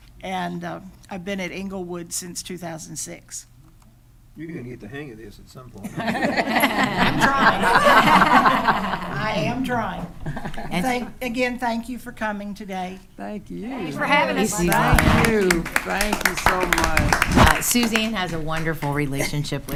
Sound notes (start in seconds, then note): 5.8 attendees laughing